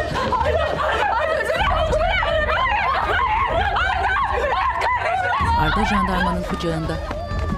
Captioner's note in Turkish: Bağrışmalar